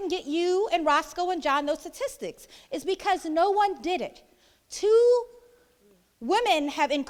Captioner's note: none